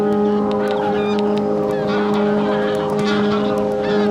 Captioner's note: geese flying overhead